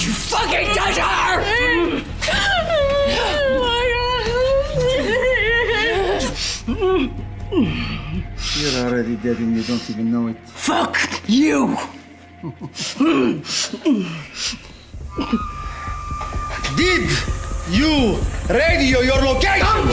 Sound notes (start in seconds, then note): 2.2 crying; 13.7 grunting